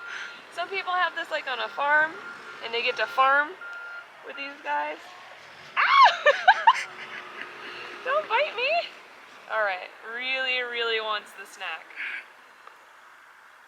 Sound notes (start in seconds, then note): 5.8 screams